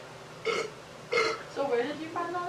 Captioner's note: belching